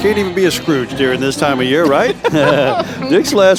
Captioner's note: laughing